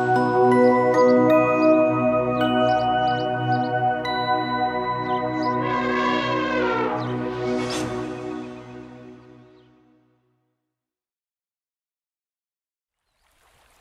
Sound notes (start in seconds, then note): 0.0 cheerful music playing; 5.3 elephant growl